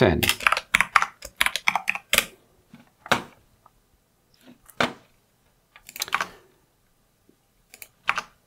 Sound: typing

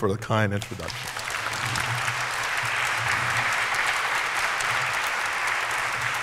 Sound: applause

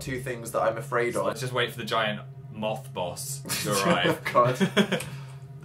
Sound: sniggers

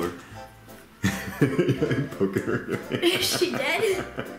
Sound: laughs

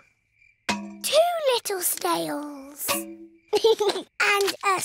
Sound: george giggles

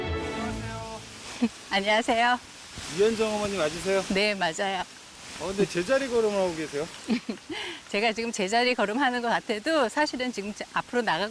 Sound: voiceover

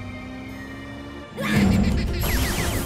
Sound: evil laughter

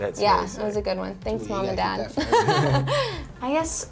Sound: laughs

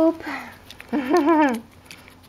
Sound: giggling

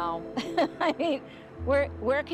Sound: laughs

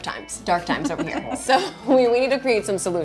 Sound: laughter

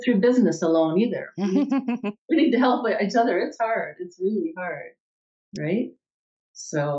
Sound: chuckles

